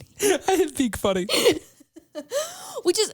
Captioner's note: laughs